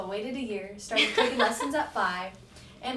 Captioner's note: laughs